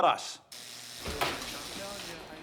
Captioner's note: door buzzes